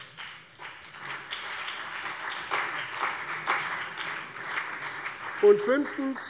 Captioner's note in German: Beifall CDU und BÜNDNIS 90/DIE GRÜNEN